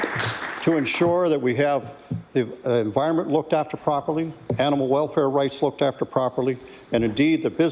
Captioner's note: applause